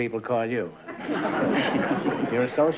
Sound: laughter

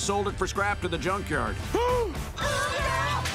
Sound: gasping

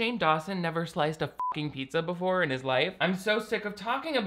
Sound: beep

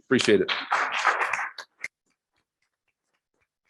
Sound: applause

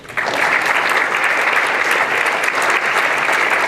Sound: applause

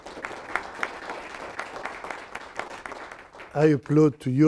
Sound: applause

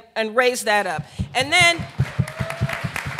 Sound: applause

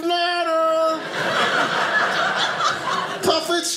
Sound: audience laughing

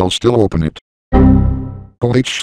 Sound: Windows XP Critical Stop

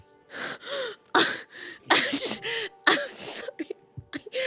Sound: laughs uncontrollably

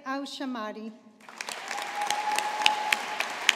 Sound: audience applauding

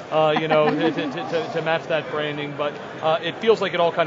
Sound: laughter

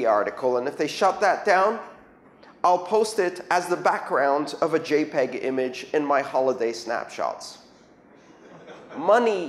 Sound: laughter

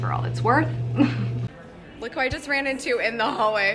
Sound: laughing

